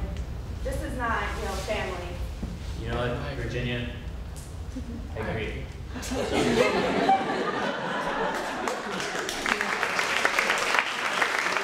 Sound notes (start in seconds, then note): 5.9 audience laughing; 8.2 applauding